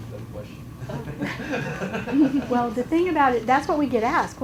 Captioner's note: chuckles